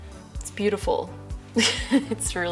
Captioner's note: laughs